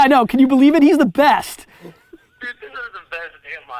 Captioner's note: laughs